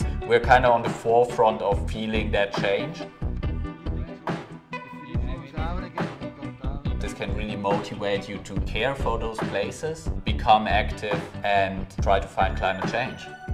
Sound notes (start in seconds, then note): 3.2 people chatting; 3.2 upbeat music